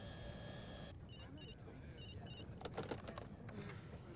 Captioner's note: telephone beeps